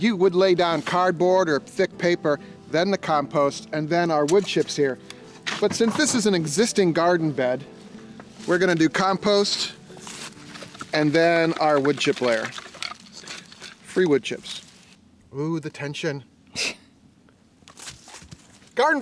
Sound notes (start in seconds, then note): 12.9 wood chips rattling; 17.2 woman chuckles